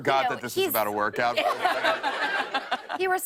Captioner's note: laughter